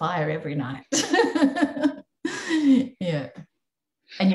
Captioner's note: laughing